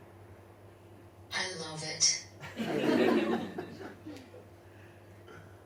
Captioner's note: audience laughs